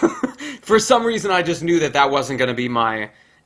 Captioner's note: laughs